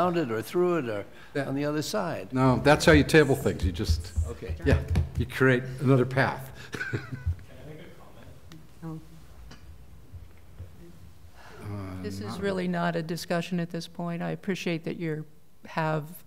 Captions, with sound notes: through it on the other side. ** Now that's how you table things. You just create another path. [Speaking off mic] ** This is really not a discussion at this point. I appreciate that you have a comment.